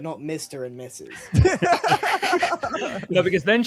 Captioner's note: laughs